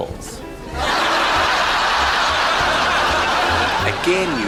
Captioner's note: audience Laughter